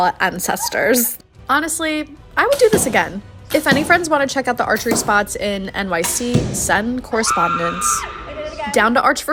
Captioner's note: screams in glee